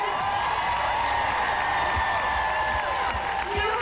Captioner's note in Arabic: هتاف